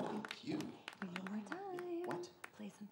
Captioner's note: whispers